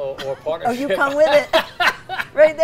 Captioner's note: laughs